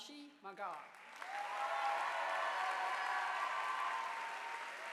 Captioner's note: audience applauding